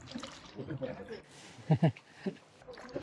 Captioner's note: laughing